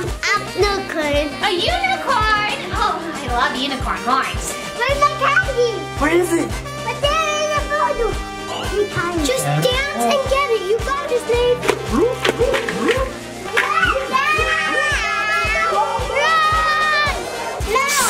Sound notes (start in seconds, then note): 11.8 rainbow ghosts growling; 13.6 screams; 17.8 snake hissing